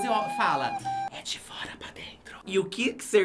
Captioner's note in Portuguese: sussurrando